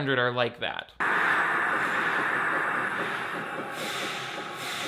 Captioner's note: swooshing sound